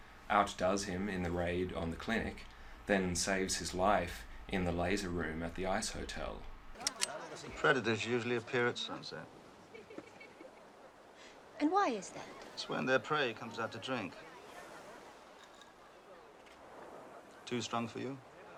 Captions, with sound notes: outdoes him in the raid on the clinic then saves his life in the laser room at the ice hotel? [Gun cocking] Predators usually appear at sunset. And why is that? It's when their prey comes out to drink. [Ice cubes rattling] Too strong for you?